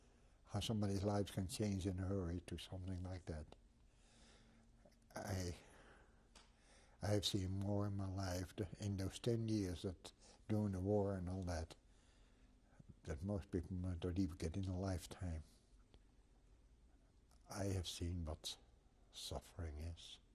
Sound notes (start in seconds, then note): 14.9 pauses for 3 seconds